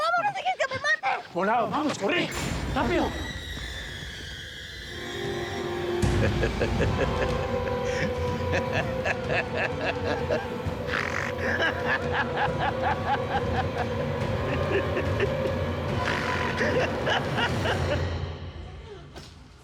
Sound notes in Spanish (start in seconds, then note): 11.2 carcajadas